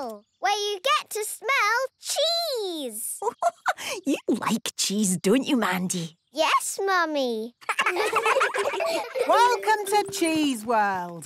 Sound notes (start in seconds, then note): 3.2 giggling